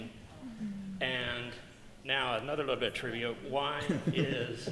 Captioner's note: laughter